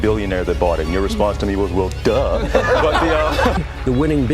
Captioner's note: laughter